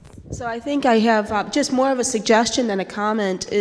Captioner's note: voiceover